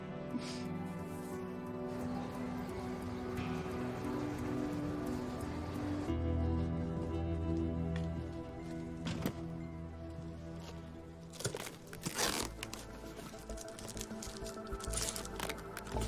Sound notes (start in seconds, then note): 11.3 peeling tape; 13.4 soft, tense music